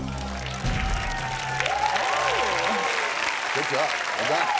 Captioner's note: audience cheers and applauds